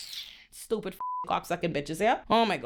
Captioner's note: beep